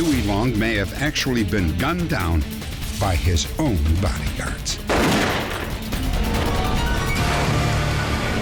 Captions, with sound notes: Long may have actually been gunned down by his own bodyguards. [gun shot]